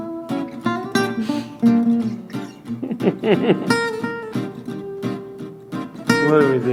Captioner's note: both start to chuckle